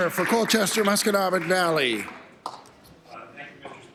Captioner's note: applause